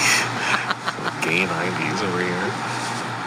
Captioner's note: laughs